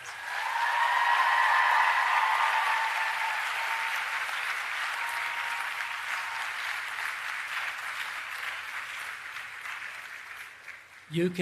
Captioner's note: applause and Cheering